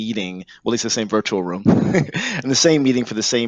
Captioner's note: laughs